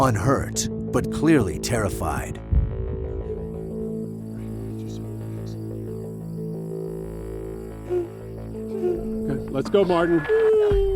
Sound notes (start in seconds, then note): 7.8 whimpering